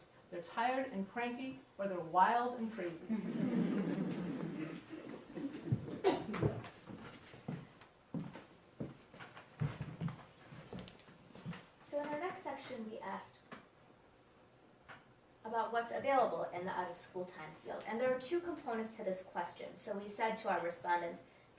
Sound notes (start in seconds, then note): 3.1 audience laughs; 6.1 footsteps